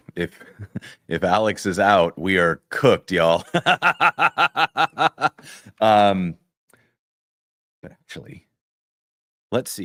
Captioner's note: laughter